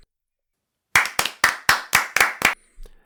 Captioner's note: claps